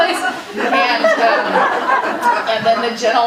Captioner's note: audience laughing